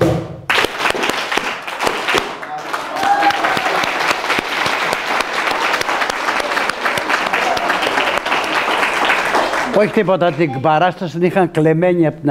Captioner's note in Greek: χειροκρότημα